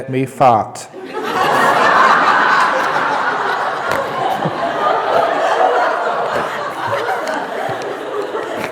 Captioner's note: roaring laughter